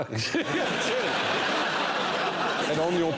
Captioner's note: laughter